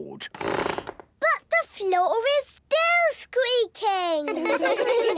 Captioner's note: squeaks